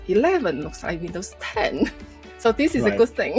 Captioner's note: laughs